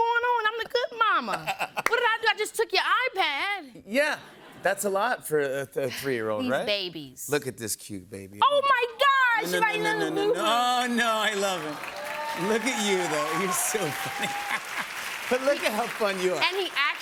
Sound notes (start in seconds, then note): 14.0 cheers and applause